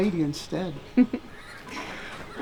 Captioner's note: Bonnie chuckles